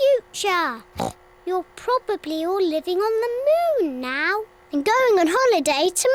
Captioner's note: oinks